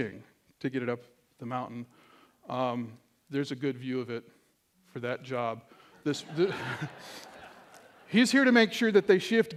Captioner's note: laughter